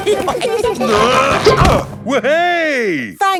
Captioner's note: all giggling; grunting